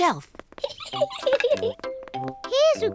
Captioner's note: giggles